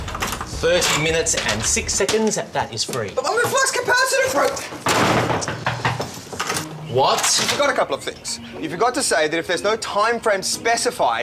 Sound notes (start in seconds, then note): 4.6 door knocks